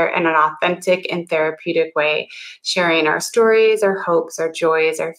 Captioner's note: none